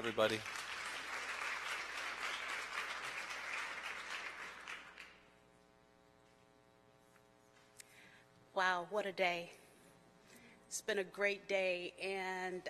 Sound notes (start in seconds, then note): 6.4 applause